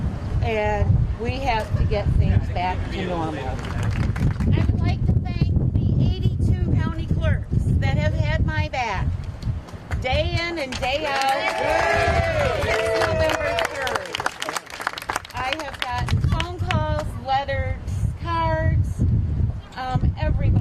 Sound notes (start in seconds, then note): 7.2 applause